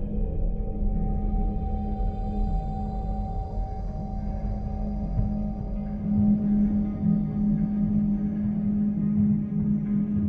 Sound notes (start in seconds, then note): none